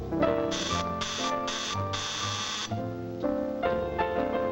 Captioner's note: gentle music playing; doorbell buzzing